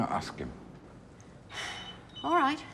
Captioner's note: exhales sharply